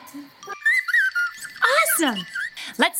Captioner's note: excited chirping